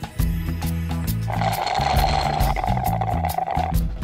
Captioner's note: slurp